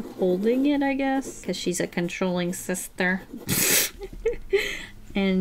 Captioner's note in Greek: Γέλια